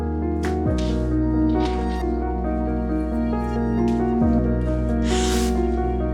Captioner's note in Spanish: Sollozos